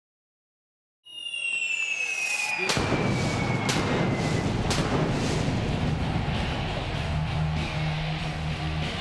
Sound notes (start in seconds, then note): 1.4 pyro explodes; 5.6 rock music